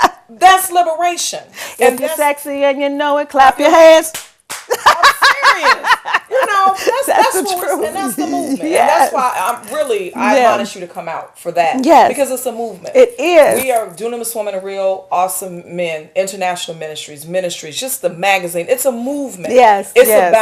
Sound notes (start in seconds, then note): 4.4 clapping; 4.7 laughter